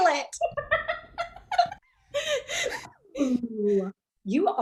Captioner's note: Lydia and Alice laughing